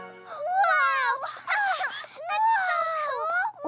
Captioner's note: laughs